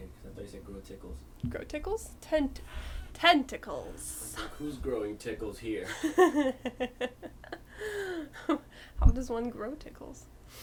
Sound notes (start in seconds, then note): 2.3 over pronounces; 5.9 laughs